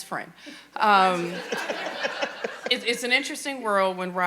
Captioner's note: audience laughing